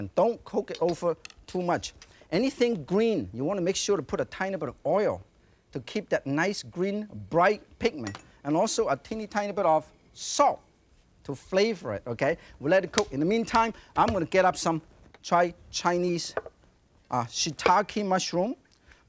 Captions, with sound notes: Don't cook it over (pot clinks) too much. Anything green, you wanna make sure to put a tiny bit of oil to keep that nice, green, bright pigment. (bottle clinks) And also a teeny-tiny bit of salt to flavor it, okay? We'll let it cook. (hands tap) In the meantime, I'm gonna get up some Chinese. (saucer thuds softly) Shiitake mushroom. (knife clinks)